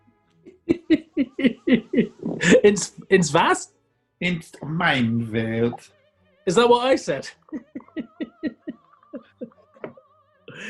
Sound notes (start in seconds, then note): 0.5 giggling; 4.2 silly voice; 7.2 giggling